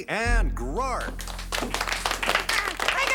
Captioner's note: applause